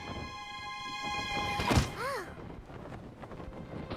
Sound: thump; gasps

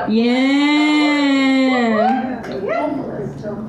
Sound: cheering

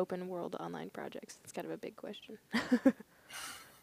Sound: laughing

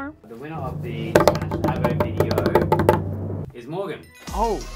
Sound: drum roll with hands

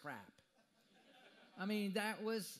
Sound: audience laughter

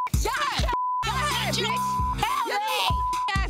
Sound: beep

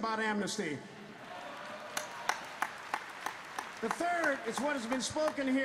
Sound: applause

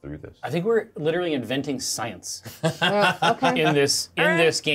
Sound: laughs

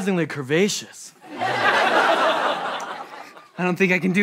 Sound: laughter

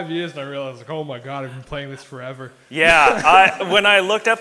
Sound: laughs

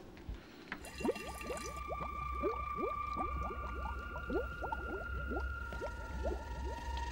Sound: chemicals bubbling; eerie music

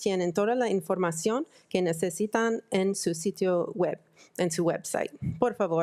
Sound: speaking in foreign language

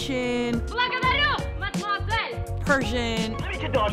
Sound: speaks foreign language

